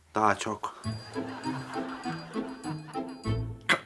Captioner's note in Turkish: Gülme efekti